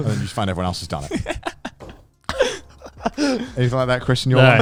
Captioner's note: laughs quickly